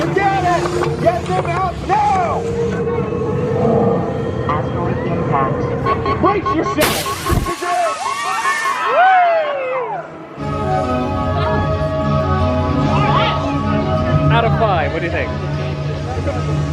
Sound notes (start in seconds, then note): 4.3 alarm beeps; 7.6 riders scream; 10.1 soft electronic music